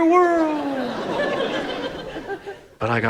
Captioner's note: audience laughs